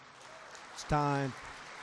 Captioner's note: applause